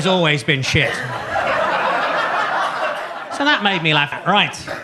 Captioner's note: audience laughs